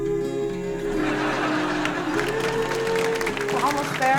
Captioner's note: audience laughing